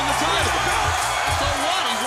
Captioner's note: crowd cheering